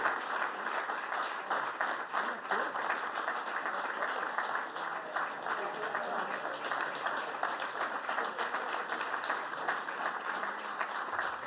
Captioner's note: applause